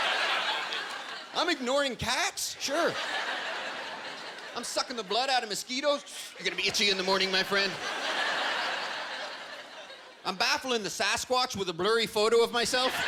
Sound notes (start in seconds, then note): 5.2 inhaling loudly